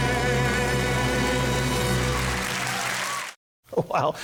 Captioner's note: clapping